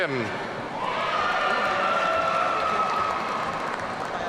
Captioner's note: audience cheering